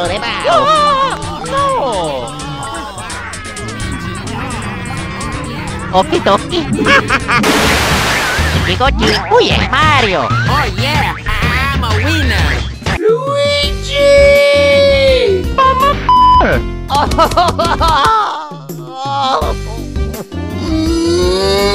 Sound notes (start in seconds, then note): 0.0 Luigi Doll gibberish; 16.4 cries